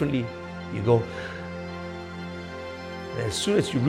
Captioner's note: breathes in